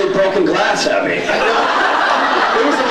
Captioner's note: laughs